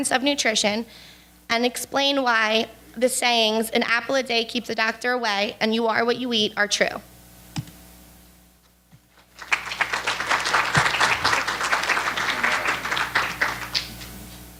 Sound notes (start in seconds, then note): 9.1 applause